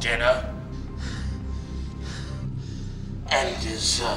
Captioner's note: Jacob panting